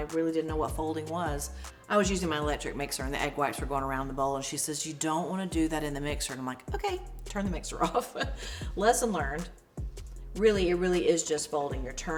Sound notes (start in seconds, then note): 7.7 laughs